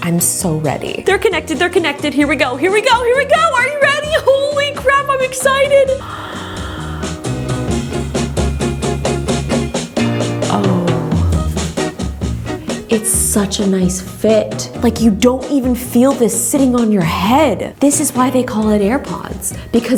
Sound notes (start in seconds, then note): 5.9 gasps